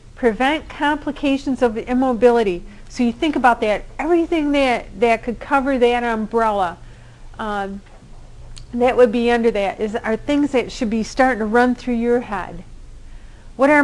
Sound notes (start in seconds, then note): none